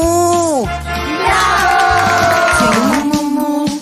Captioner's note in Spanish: Aplausos